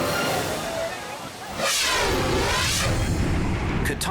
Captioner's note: air whooshes